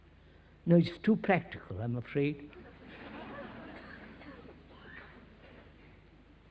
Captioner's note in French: Rires